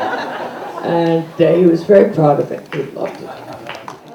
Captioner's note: applause